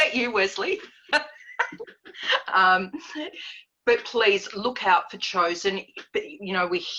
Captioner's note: laughs